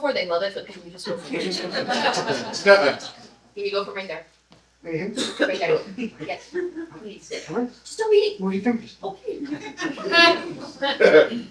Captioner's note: laughter